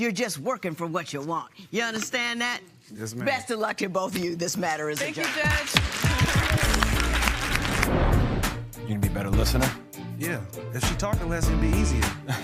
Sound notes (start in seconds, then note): 7.0 applause